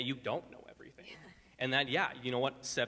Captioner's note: laughs softly